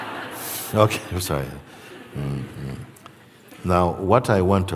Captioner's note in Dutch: gelach